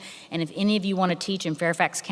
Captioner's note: none